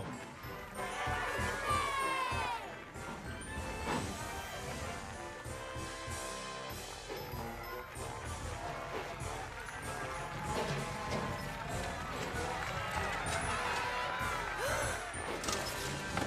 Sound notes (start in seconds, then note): 0.7 all Cheering; 14.6 gasp